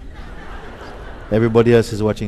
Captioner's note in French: rire